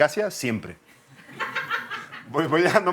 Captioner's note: laughter